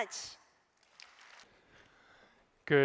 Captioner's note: applause